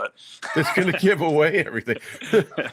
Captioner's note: laughing